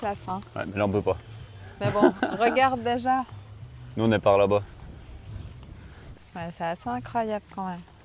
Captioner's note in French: rires